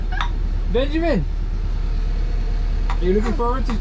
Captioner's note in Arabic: تضحك